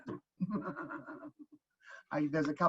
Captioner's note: laughing